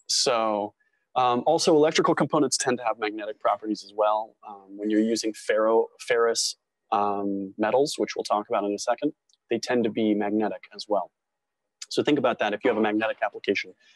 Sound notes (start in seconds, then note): none